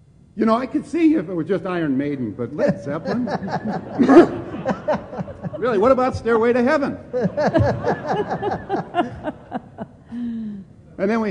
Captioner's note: laughter